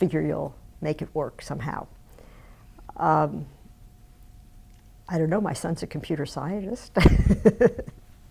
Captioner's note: laughs